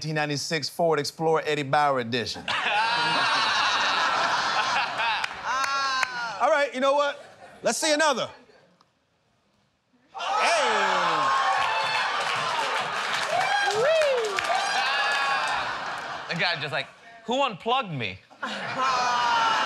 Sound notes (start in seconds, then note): 2.4 laughter; 11.8 cheers and applause; 13.6 laughter; 18.3 laughter